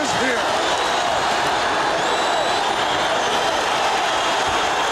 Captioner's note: audience cheering